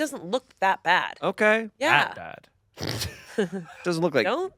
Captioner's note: laughs